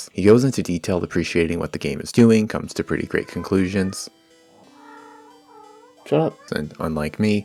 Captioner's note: cat meowing